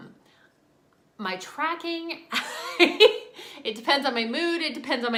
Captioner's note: laughing